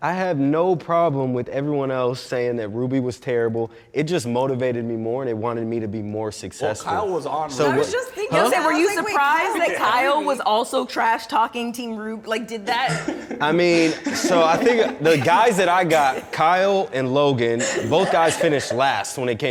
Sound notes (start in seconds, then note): 12.6 laughing